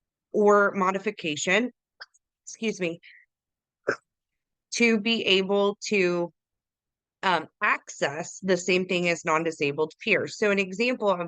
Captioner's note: coughs